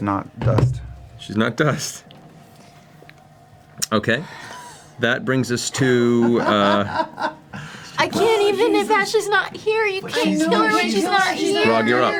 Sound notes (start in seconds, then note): 6.6 laughs